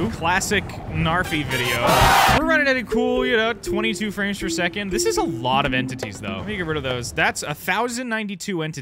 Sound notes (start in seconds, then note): 1.7 cheers